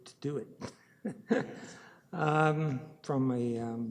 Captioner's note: chuckles